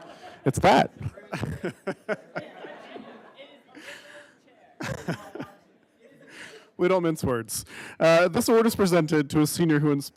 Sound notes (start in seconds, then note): 0.0 everybody laughing